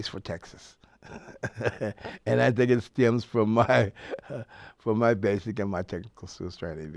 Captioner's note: laughs